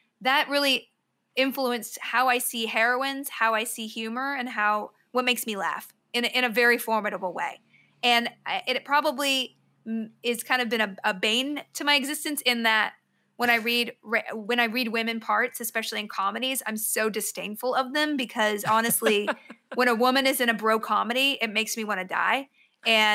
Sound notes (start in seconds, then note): 18.6 laughs